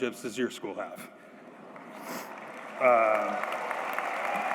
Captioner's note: applause